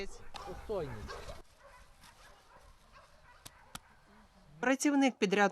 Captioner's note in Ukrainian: Гавкіт собак